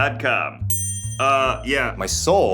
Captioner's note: bell rings